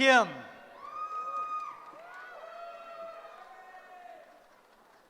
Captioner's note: cheering